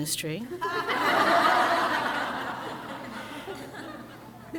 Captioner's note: crowd laughs